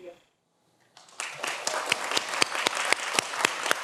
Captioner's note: everyone applauds